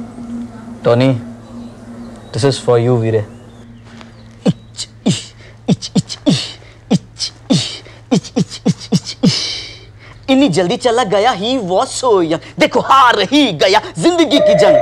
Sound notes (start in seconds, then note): 5.1 Bandah beatboxing